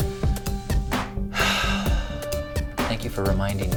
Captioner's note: exhales